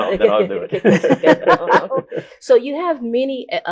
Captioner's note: all laughing